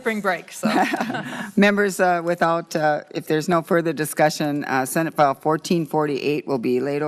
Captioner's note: laughter